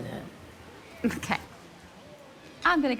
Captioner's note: laughs